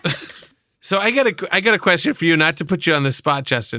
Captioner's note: laughter